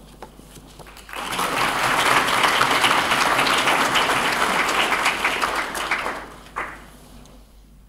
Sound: applause

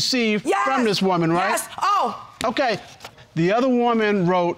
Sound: exclaims

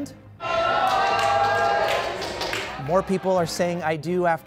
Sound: cheers and applause

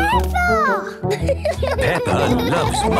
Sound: laughing

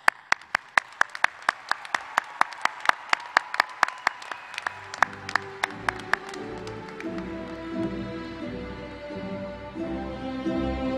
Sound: applause

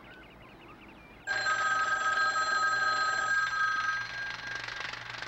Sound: phone rings

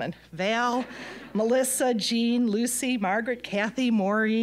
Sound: audience laughing

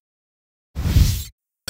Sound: swoosh

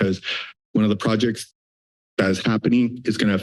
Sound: heavy breathing

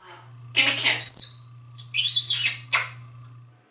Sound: smooch, smooch

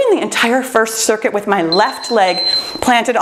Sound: timer beeps

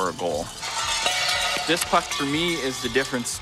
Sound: goal rattle

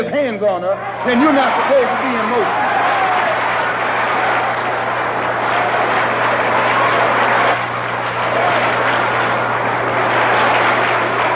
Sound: applause

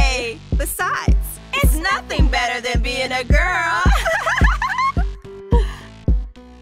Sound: giggling

